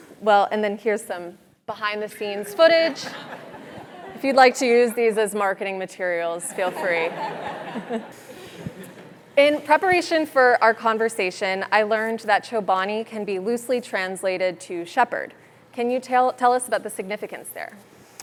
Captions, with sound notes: Well, and then here's some behind the scenes footage. >> [LAUGH] >> If you'd like to use these as marketing materials, feel free. >> [LAUGH] >> In preparation for our conversation, I learned that Chobani can be loosely translated to shepherd. Can you tell us about the significance there?